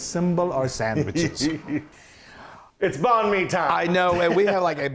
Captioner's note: laugh